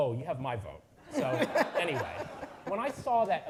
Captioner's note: audience laughing